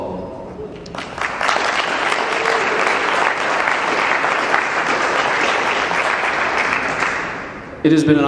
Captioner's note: clapping